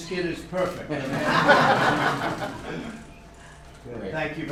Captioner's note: laughter